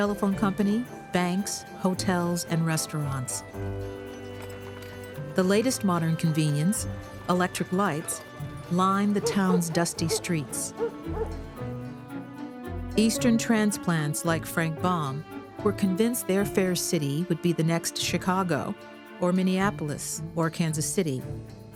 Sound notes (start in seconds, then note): 9.2 dog barking